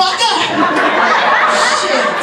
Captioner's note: audience laughs